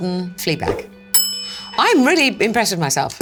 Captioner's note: bell dings